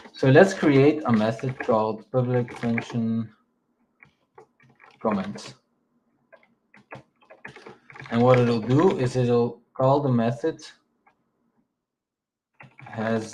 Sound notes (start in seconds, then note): 6.7 keyboard clacking; 12.6 keyboard clacking